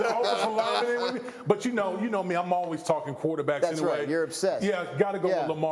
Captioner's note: laughter